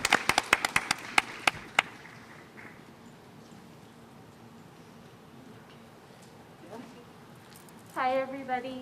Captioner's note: applause